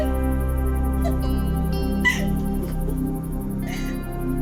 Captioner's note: giggling